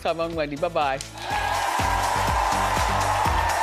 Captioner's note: audience cheering; upbeat music